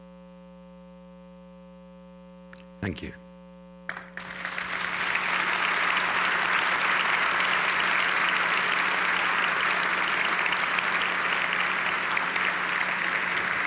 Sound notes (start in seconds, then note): 4.4 audience applause